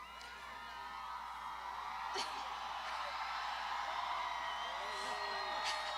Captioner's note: graduands shouting